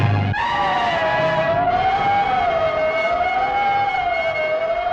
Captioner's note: ominous music intensifying; siren alarming